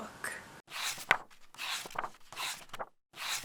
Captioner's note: pages turning